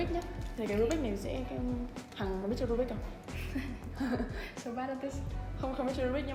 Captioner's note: chuckles